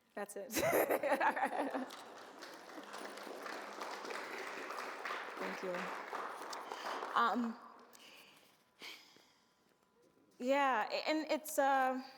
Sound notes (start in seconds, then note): 0.5 laughs; 1.2 audience applauds